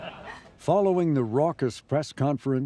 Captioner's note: crowd member laughs